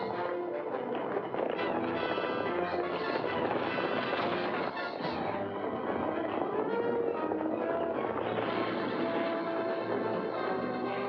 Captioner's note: hooves pounding; dramatic music